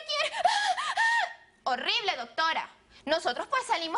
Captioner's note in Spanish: Jadeos fuertes